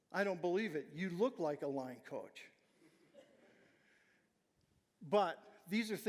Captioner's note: audience chuckling